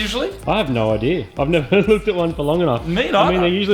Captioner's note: laughs